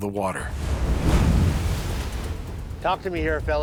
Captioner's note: waves crash